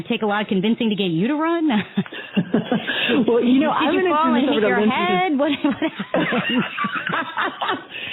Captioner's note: laughter